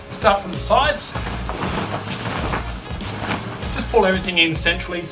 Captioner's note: objects rattling